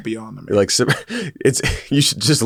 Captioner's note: laughs